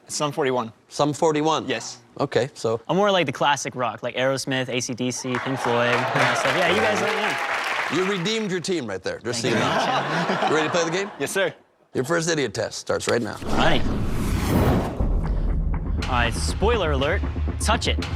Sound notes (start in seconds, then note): 5.2 cheers; 9.4 laughter